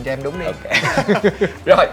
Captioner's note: laugh